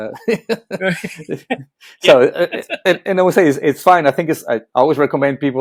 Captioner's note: laughing